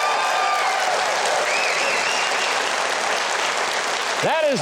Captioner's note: audience cheering; audience clapping